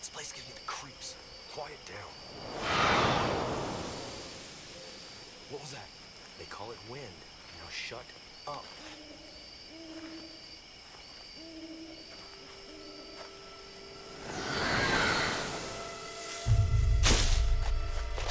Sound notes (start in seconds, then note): 1.7 wind blows; 2.7 creature shrieks; 13.1 eerie music; 14.3 creature screeches